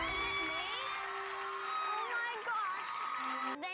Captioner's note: applause